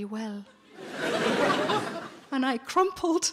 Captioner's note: audience laughing